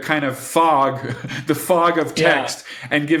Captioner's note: chuckles